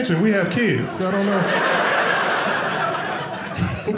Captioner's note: audience laughing